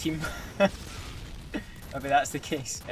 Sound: laughs

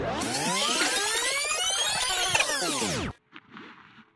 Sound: audio tape rewinding

